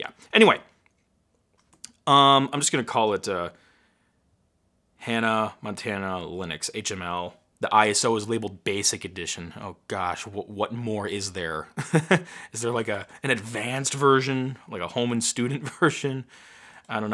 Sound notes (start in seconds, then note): 11.5 laughing